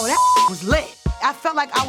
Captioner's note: beep